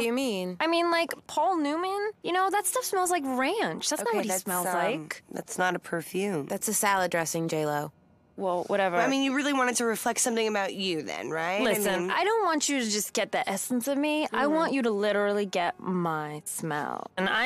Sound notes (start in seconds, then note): none